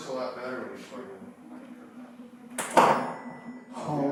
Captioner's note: loud clank